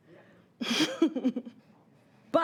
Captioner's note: chuckling